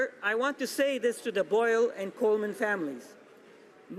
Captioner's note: none